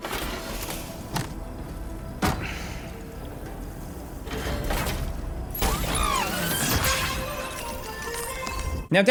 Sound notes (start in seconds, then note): 5.1 machine clanking; 7.4 cheerful jingle